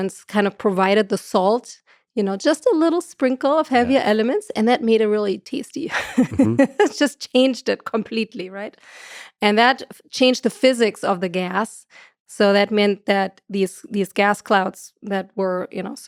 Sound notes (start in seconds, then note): 5.9 chuckles